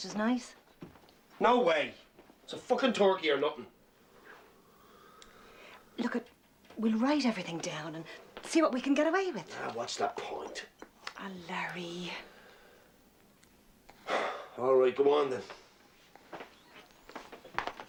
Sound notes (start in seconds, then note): 13.9 Suspiros